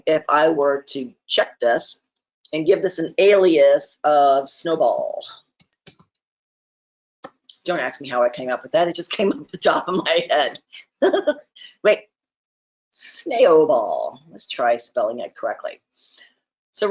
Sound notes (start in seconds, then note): 5.6 keyboard typing; 10.8 chuckles